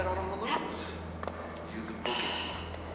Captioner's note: sighs